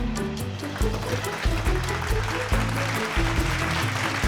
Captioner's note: clapping